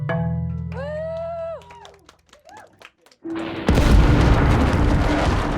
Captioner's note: applauding and cheering